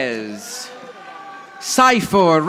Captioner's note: audience applauding